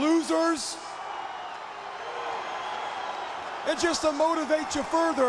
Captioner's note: crowd cheering